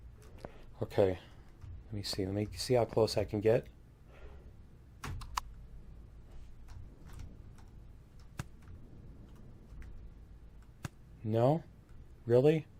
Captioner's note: keystroke